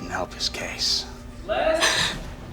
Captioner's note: gasps